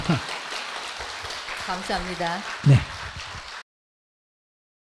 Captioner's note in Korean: 청중 박수 / 스님 웃음; 청중 박수